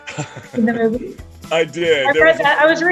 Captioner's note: laughing